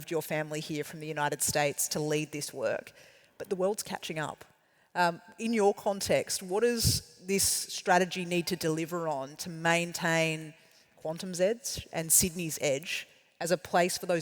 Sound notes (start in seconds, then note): none